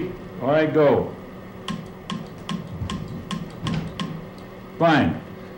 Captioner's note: clicks